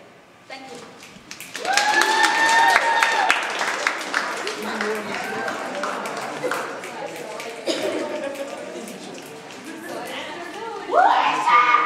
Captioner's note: audience applauds